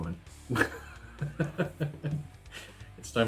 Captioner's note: laughs